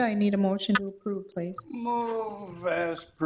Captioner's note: none